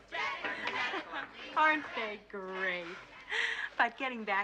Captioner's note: Смеется